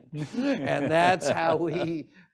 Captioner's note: laughs